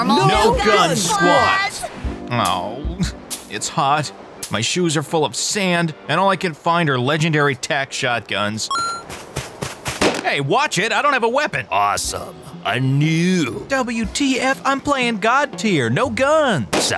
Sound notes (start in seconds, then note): 9.8 gunshot